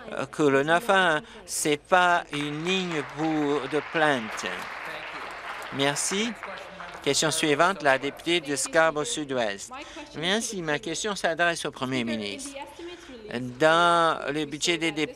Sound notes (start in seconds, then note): 6.6 applause